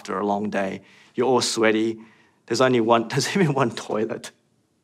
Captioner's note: laughs